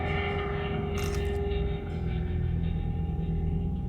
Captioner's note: camera snaps